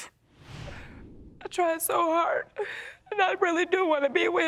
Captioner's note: sniffling